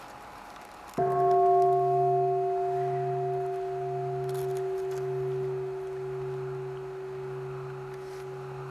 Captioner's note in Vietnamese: chuông